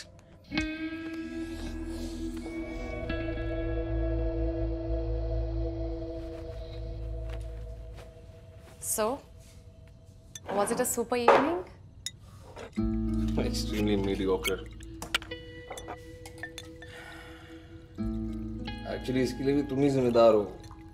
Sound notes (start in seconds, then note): 0.5 smooching; 0.9 both moaning; 16.8 sighs